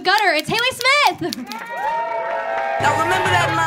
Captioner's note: audience cheering